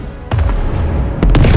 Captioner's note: boom